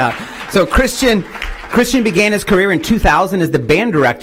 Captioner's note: applause